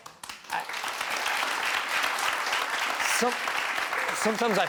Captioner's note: crowd cheering